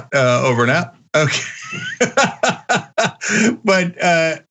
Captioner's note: laugh